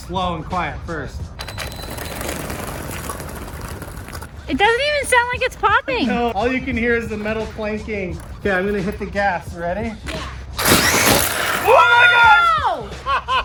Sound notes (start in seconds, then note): 1.4 RC car whirring; 10.6 RC car whirring; 12.8 laughs